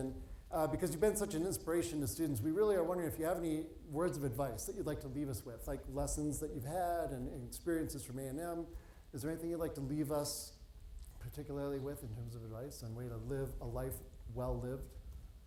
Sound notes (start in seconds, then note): none